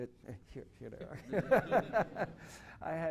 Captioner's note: laughter